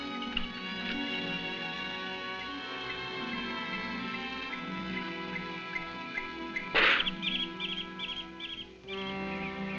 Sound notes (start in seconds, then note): 6.7 spitting